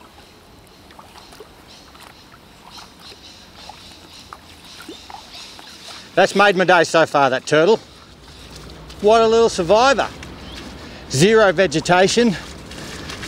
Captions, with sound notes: [birds, bubbling water] That's made my day so far that turtle. What a little survivor. Zero vegetation.